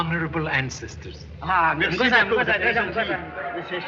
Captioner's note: responding in Chinese